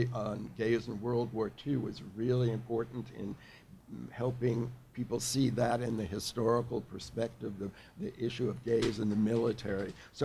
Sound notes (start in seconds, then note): none